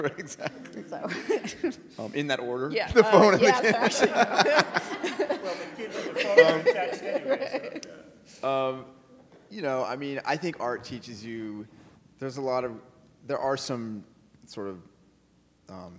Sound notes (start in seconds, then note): 3.0 audience laughing; 5.9 faintly speaking